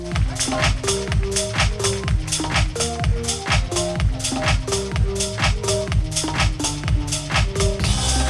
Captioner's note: applause